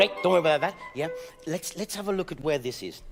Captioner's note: speaking in French